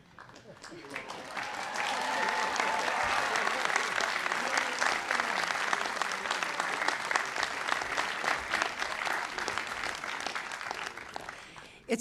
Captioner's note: cheering and applause; applause